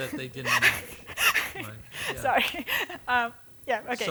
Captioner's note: laughing